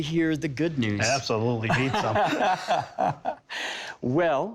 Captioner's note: laughing